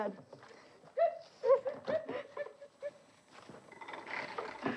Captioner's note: laughter